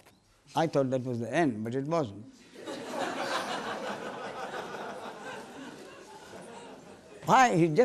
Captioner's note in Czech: smích